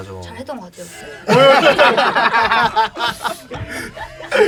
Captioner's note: laughing